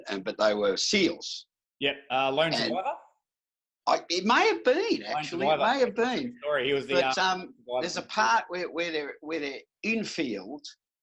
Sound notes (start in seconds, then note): none